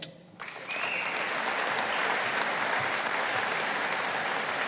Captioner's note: audience applauding